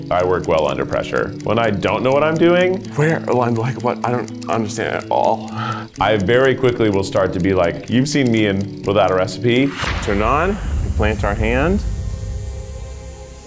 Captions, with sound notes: I work well under pressure. When I don't know what I'm doing... Where like what? I don't understand at all. I very quickly will start to be like, you've seen me in without a recipe. (tattoo machine buzzing) Turn on. Plant our hand.